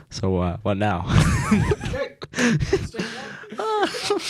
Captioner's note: laughing